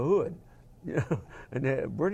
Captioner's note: laugh